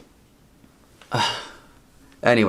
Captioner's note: sighs